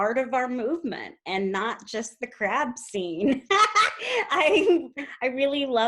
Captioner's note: giggles